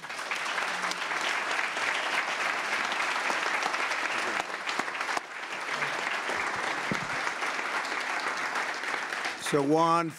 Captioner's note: applause